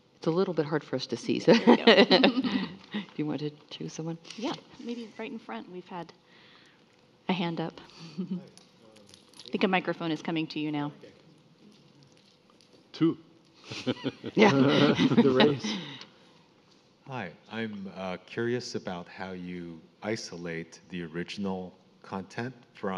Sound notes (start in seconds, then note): 1.4 laughs; 11.8 speaks faintly; 13.7 panelists laughing